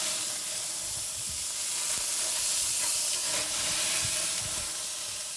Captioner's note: tuna searing